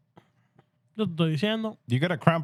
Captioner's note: speaking Spanish